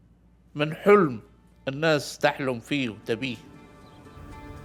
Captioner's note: speaking in Arabic